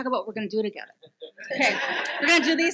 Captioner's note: audience laughs